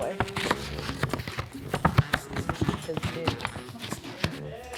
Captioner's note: board rustling